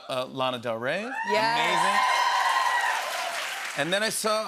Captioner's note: cheers and applause